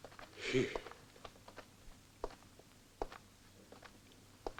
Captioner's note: sighs